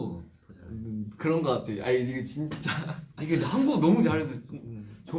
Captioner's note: laughs